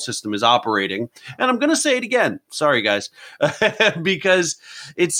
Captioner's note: laughs